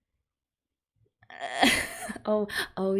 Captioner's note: laughs